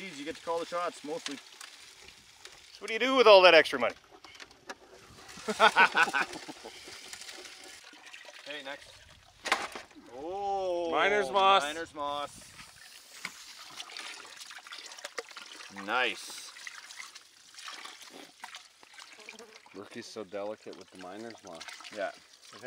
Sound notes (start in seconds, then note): 5.4 laughing